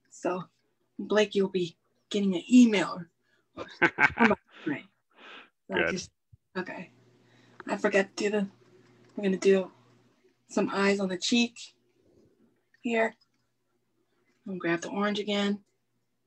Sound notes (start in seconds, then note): 3.6 laughs